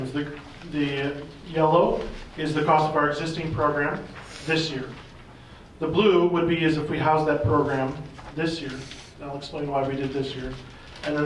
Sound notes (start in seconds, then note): none